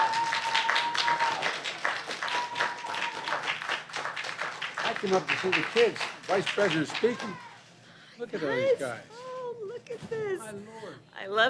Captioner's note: applause